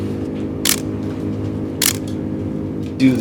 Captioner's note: camera clicking